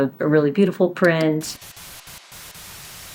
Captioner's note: static